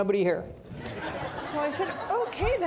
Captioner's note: audience laughing